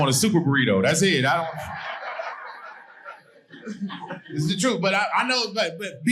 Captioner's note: audience laughing